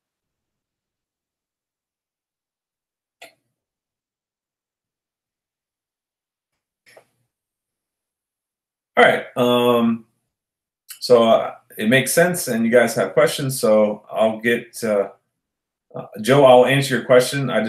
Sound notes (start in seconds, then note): none